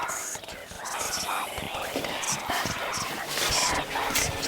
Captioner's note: ghostly whispering